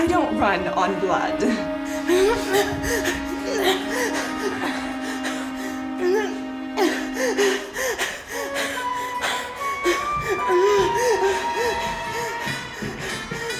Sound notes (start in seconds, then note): 2.2 Faye gasps